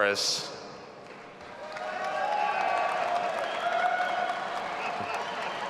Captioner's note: audience applauding and cheering